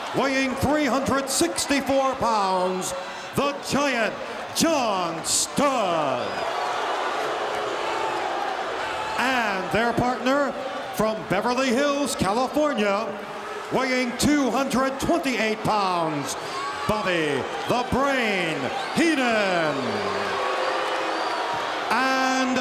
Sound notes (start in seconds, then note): 6.1 audience shouting; 19.4 audience shouting